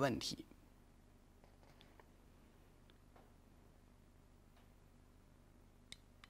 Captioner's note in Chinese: 空白_音频